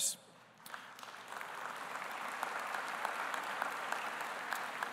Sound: audience applauding

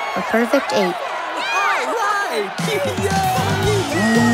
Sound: cheering

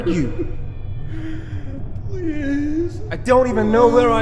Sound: crying with sorrow

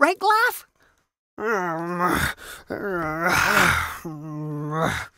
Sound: gutteral grunts and sighs

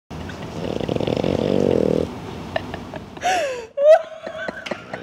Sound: laughing; snoring

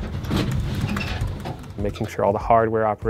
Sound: typing

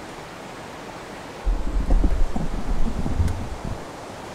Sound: camera microphone rattling

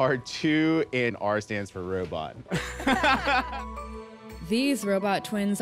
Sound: everyone laughs

